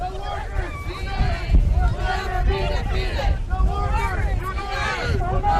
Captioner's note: chanting